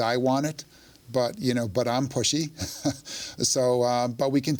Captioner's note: chuckles